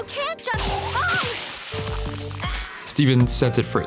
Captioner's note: yells